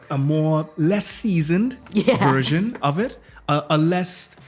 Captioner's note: laughs